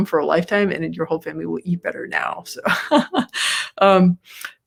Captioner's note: laughs